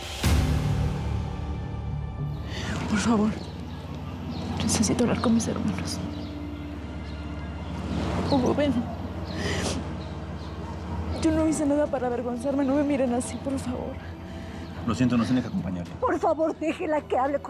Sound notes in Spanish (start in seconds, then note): 10.0 solloza